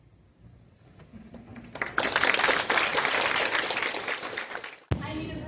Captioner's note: applause